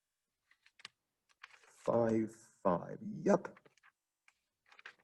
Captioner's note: typing